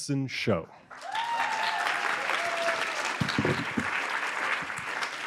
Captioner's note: applause